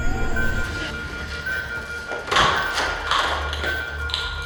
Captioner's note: monitor alarm sounding